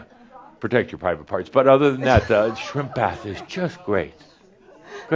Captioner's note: more chuckles